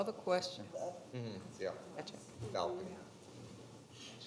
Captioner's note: attendee speaking quietly; attendee speaking quietly